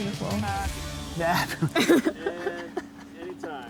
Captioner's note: all laughing